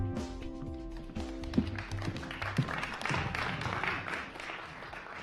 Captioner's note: audience claps